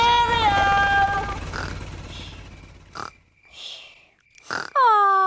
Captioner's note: baby alexander snoring